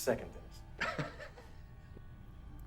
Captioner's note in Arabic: ضحكة مكتومة عصبية